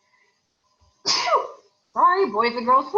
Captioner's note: sneezes